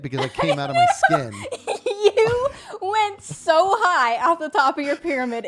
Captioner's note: laughs